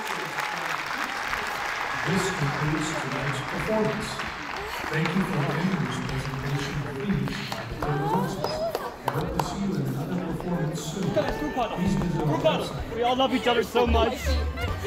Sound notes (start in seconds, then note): 0.2 crowd claps loudly; 11.1 dancer speaks in Ukrainian